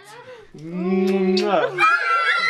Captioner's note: smooch